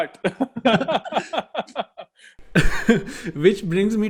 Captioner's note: laughing